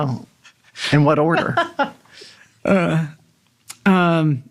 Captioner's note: group chuckling